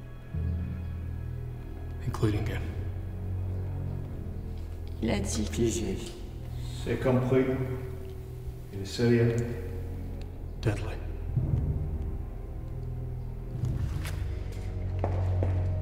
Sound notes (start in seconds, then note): 4.2 speak in French; 11.0 ominous music